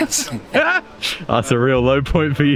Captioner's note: laughs